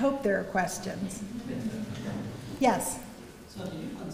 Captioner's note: laugh